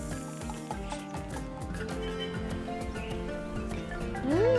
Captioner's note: birds chirping